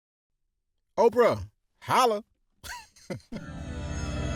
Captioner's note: delighted laugh; dreamy electronic music break